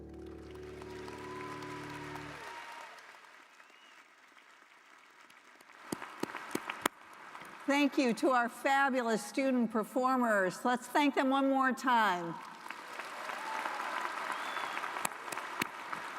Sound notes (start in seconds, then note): 2.9 applause